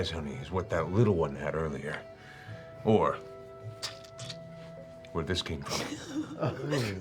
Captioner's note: squishing